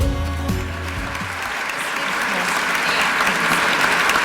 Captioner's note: audience clapping